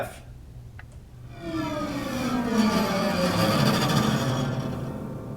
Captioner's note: ghostly creaking